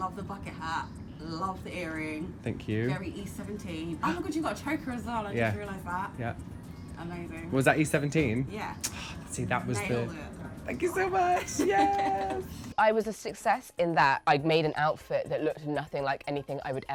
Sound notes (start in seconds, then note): 11.3 laughing